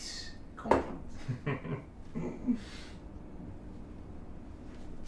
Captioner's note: chuckling